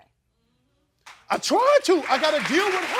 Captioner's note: crowd applauds